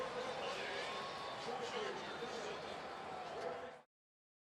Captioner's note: pa announcement